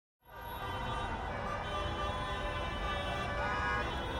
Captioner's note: traffic honking